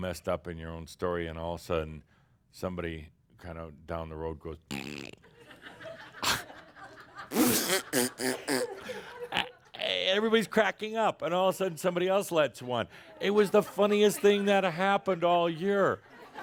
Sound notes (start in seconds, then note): 5.3 laughter, and adds to the sound effects